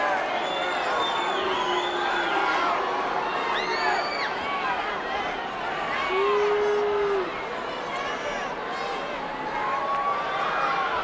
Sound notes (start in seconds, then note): 1.0 crowd continues booing; 4.3 crowd member screams